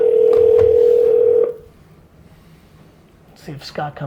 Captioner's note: phone ringing